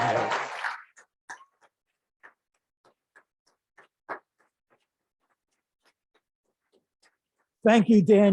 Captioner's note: applause